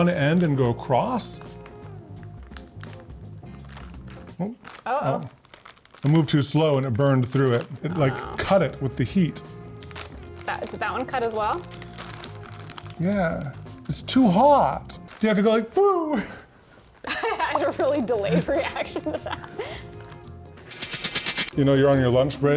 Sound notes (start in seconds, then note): 2.2 bag rustling; 11.8 bag rustling; 16.0 laughs